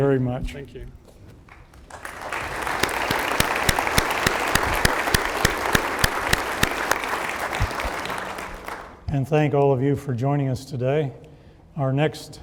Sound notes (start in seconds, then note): 1.5 applause